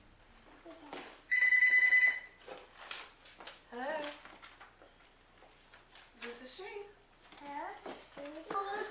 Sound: phone: ring

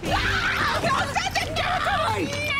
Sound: screaming

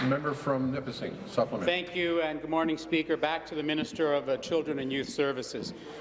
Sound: applause

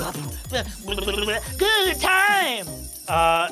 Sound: lips trilling

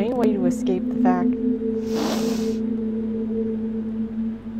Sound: deep inhale

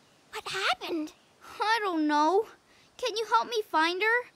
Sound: gasp

